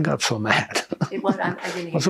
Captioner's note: laughing